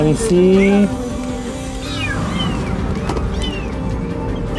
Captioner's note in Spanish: Maullidos